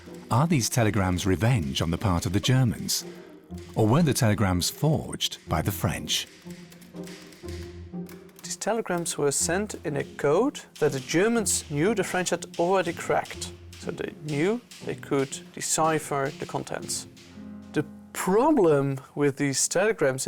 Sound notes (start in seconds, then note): 5.2 typewriter clacks